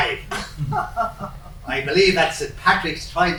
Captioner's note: laughing